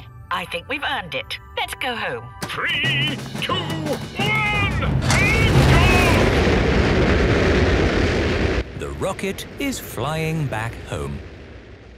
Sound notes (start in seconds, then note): 6.4 rockets blasting